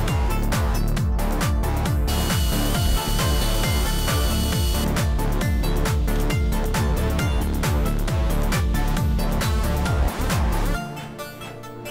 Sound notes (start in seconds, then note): 2.1 air-powered drill